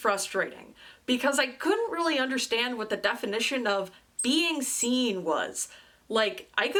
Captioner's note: squeaks